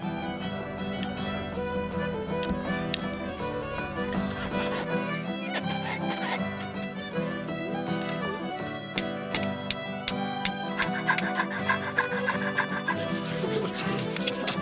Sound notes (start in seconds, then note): 0.1 bright folk music; 9.2 tools clanking